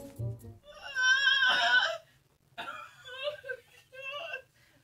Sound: girl screaming and crying

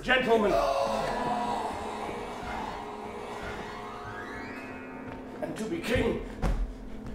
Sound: groaning

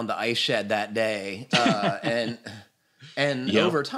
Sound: laughs

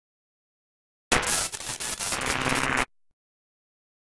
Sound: sound of static

